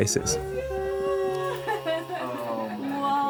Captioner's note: team members gasping